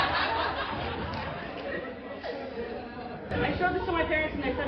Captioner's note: laughter